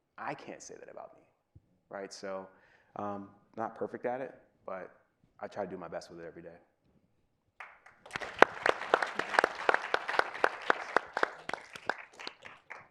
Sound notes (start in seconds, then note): 7.6 audience applauding